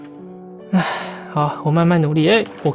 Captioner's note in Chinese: ※嘆氣